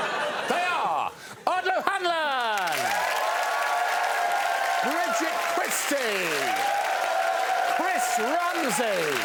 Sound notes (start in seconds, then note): 2.3 applause